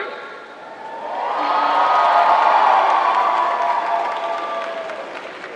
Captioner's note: applause